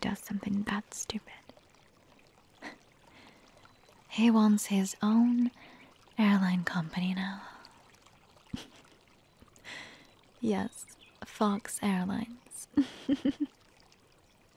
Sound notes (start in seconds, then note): 3.0 scoffs; 9.1 chuckles